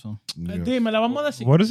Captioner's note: speaking In Foreign Language